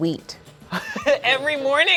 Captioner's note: laughing